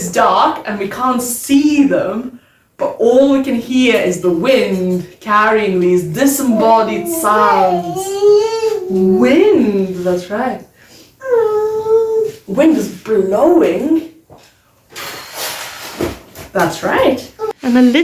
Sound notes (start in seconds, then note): 14.9 blowing